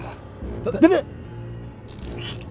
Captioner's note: Tommy shouts; finger squelches